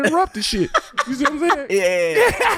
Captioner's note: laughing